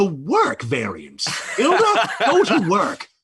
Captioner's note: laughs